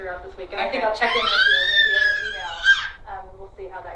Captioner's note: squeals